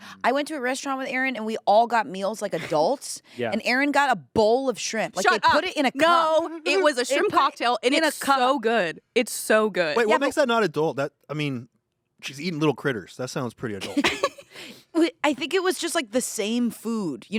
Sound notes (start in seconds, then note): 13.8 everyone laughs